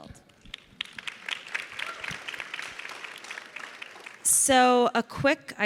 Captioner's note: audience clapping